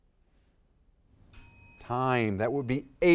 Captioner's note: timer dings